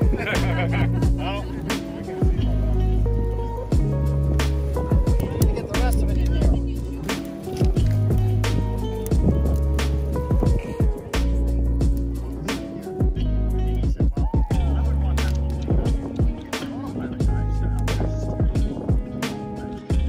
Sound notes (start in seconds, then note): 0.0 laughter; 6.7 chatter